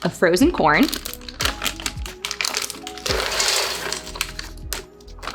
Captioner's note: corn rattling